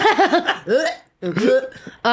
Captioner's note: laughing